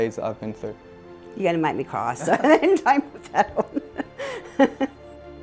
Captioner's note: laugh